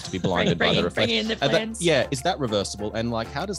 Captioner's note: others laughing